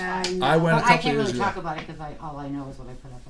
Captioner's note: voiceover